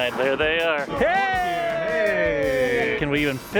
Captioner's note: excited heys and hugs